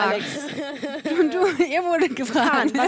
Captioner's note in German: lacht